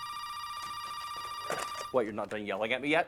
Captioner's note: phone ringing